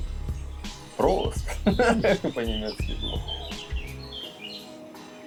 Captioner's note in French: en allemand